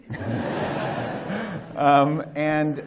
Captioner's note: laughter